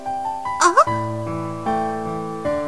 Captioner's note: rain